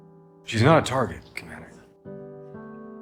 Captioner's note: voiceover